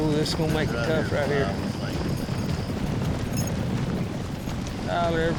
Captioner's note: hoofbeats